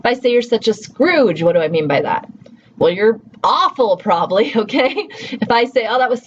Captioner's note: laughs